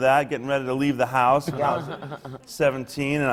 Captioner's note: laughs